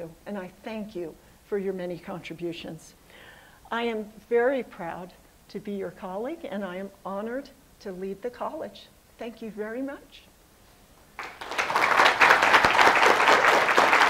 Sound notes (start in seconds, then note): 11.1 applause